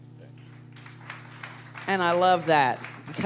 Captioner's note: applause